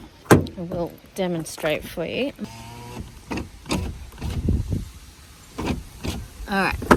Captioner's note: electric window whirrs and clunks